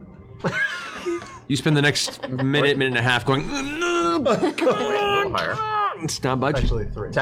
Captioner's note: grunting sounds